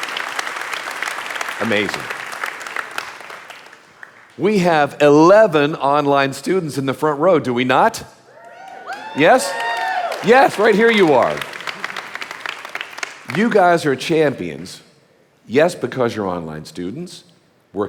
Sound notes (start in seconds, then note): 12.1 audience applauding